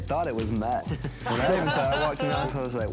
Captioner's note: everyone laughing